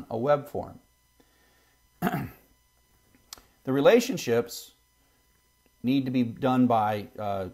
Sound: cough

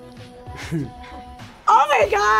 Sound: laughs

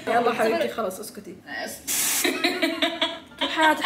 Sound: laughing

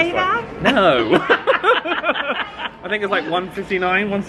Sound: they laugh

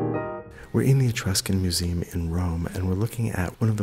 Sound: voiceover

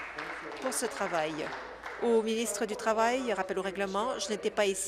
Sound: applause

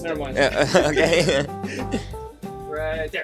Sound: laughing

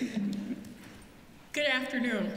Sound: laughter

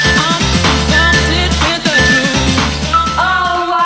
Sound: phone beeping

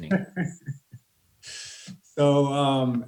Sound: laughing

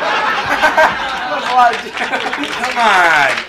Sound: audience laughs; laughs; audience applauds

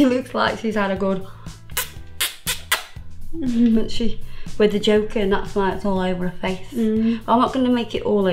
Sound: kissing noises

